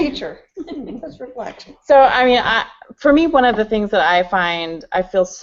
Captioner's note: laughter